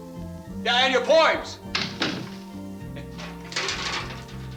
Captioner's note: door closes